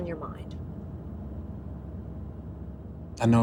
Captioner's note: car engine revving